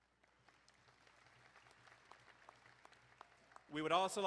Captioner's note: crowd applauding